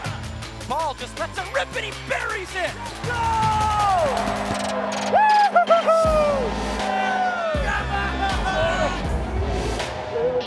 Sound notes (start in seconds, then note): 3.9 cheering; 4.8 upbeat music